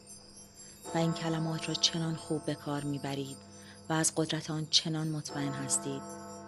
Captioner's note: clock bell